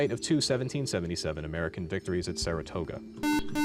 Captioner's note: buzzer